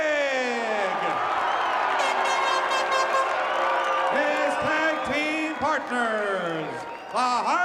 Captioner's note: applause